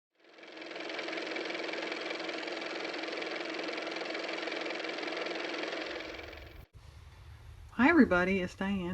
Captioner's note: car motor